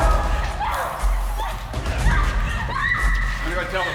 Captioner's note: screams